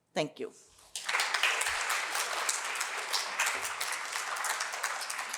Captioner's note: applause